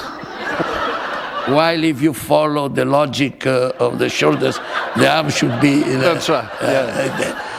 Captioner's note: laughter